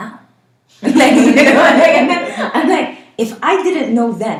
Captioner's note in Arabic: ضحكات